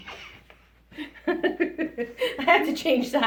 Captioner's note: laughs